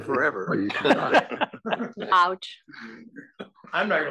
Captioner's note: laugh